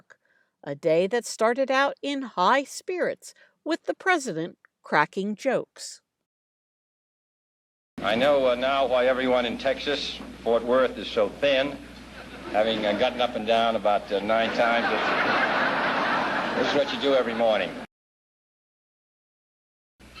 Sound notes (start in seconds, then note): 14.2 laughter